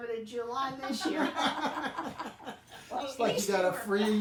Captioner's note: group laughing